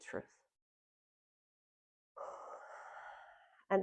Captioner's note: exhales